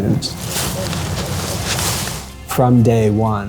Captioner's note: leaves crunching